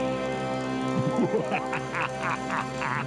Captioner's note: laughing maniacally